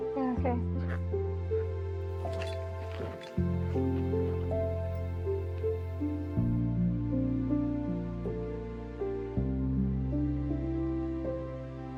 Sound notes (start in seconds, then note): 2.1 footsteps; 8.3 sad music